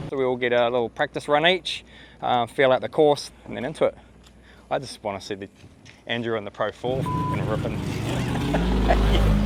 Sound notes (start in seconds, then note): 7.0 beep